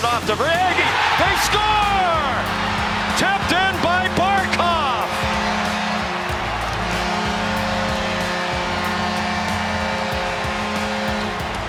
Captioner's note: goal horn